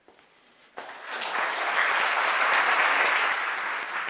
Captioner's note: applause